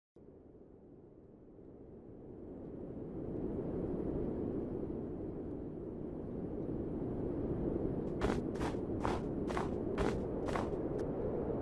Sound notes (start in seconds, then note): 1.5 wind howling; 7.9 footsteps crunch gently on the snowy driveway